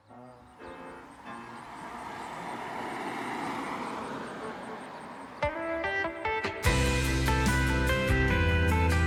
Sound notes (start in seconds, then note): 0.0 insects chirping; 0.8 dog barks; 5.5 upbeat music